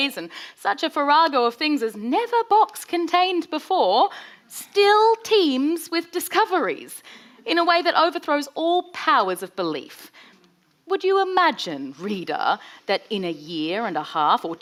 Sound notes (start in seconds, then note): none